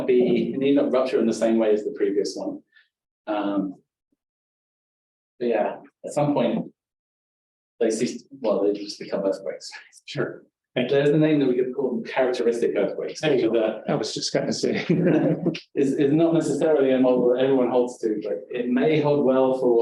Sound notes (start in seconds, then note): 14.7 chuckling